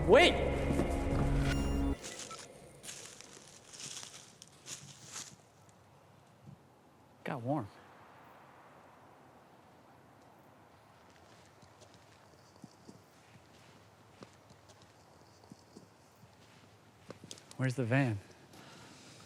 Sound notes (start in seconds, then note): 2.8 footsteps; 13.5 footsteps